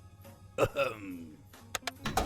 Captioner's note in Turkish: öksürür